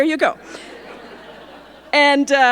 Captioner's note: audience laughing